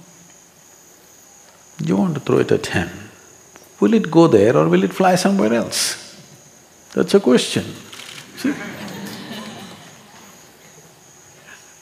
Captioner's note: laughter; 笑聲